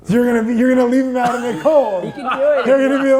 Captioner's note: laughing